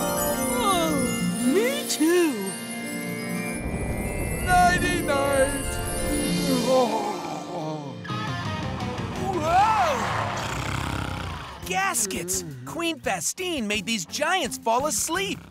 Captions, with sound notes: [yawning] Me, too. Nighty night. [snoring] Whoa! Gaskets! Queen Vastine made these giants fall asleep.